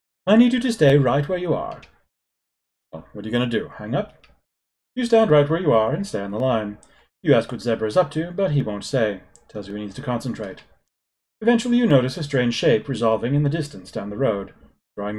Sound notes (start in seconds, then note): none